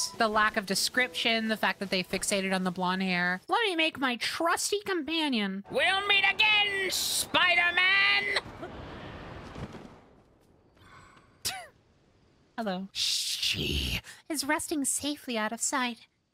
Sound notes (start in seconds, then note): 11.3 quiet Laugh; 12.8 evil Voice